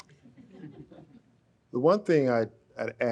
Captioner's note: audience laughs